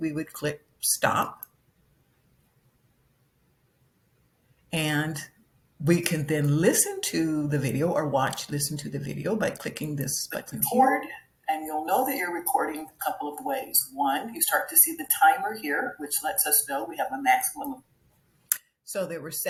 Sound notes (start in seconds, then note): 10.8 voice on recorder